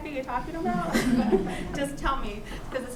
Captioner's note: laughter